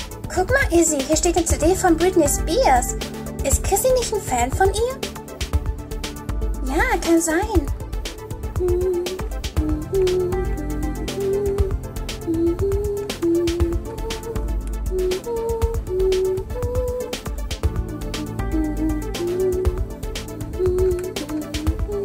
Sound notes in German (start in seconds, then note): 8.4 summt ihre Melodie